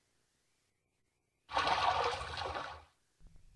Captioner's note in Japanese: 水音：バシャ･･･